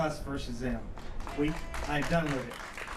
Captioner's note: applause